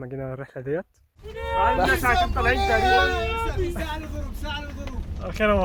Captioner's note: background shouting and celebration